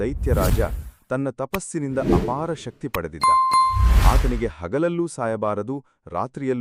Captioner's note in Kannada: ಗಂಟೆ